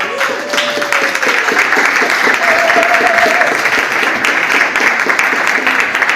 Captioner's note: audience applauds